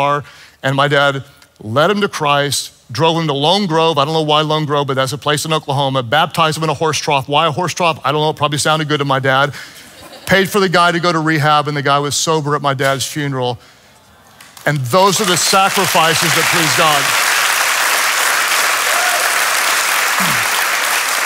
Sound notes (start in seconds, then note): 14.6 audience applauds